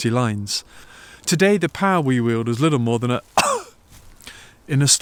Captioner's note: cough!